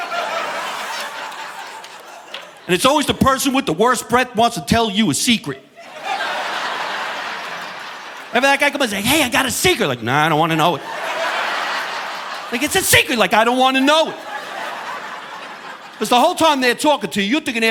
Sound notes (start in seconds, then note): 0.0 audience laughing; 5.6 audience laughing